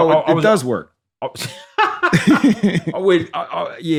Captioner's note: laughter